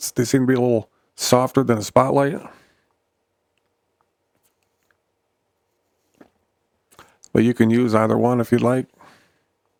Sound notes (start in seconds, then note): 2.8 silence